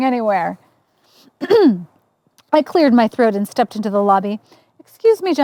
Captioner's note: sound of clearing throat